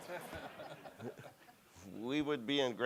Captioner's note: audience and panel laughing